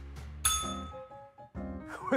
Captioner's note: bell rings